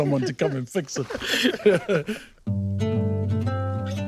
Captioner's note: both laughing